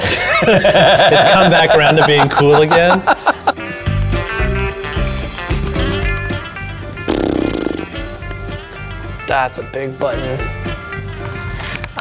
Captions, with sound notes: (all laughing) It's come back around to being cool again. (upbeat music) (blowing raspberry) That's a big button.